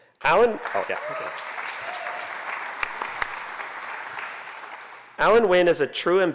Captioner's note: applause